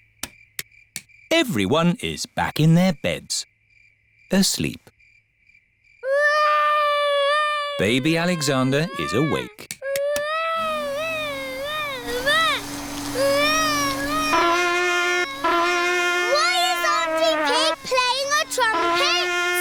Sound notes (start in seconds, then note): 6.0 baby alexander crying; 10.3 vacuum cleaner whirring; 14.1 trumpet blowing